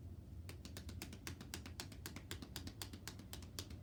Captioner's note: hands tapping